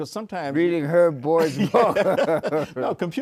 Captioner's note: both laugh